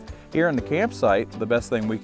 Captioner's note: air whooshing